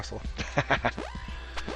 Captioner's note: laughing